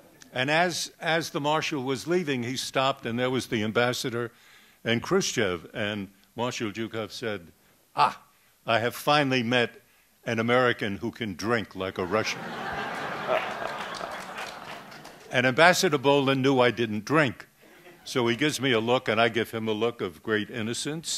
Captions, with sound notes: And as the Marshall was leaving he stopped, and there was the Ambassador and Khrushchev. And Marshall Jukhoff said, ah, I have finally met an American who can drink like a Russian. [Laughter] And Ambassador Bohlen knew I didn't drink. So he gives me a look, and I give him a look of great innocence.